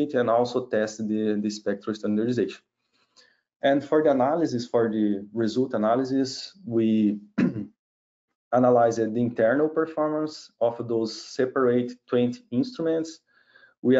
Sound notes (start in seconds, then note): 7.3 clears throat